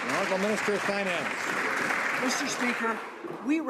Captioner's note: some Applause